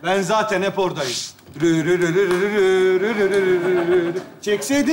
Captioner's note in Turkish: Ağzıyla müzik yapar